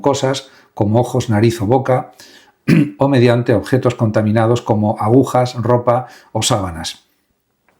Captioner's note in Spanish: carraspeo